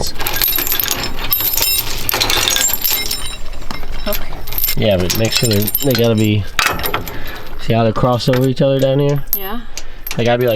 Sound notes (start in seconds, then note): 2.6 metallic Clanking